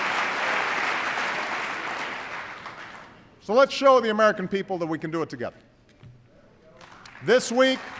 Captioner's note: applause